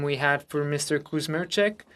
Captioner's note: speaking French